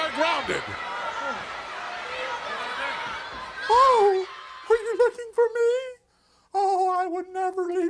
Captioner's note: applause